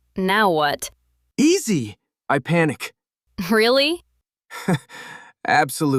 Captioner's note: laughs